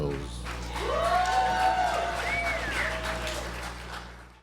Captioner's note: audience cheers